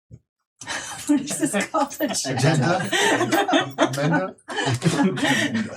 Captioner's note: laughing